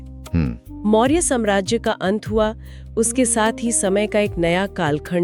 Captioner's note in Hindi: गला साफ़ करने की आवाज़